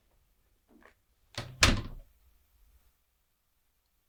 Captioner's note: door closes